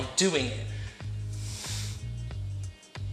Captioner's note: exhales